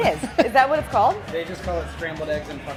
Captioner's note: laughing